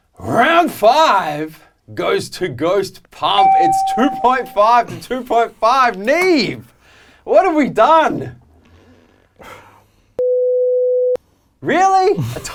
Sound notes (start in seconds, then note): 10.3 beep